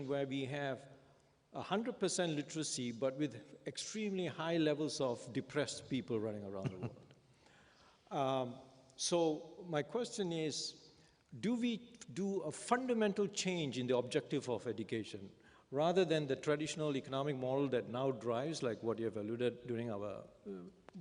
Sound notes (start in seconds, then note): 6.6 Sadhguru laughs